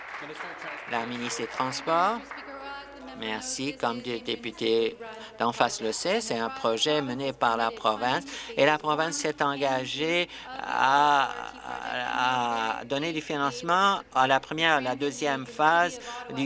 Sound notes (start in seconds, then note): 2.5 applause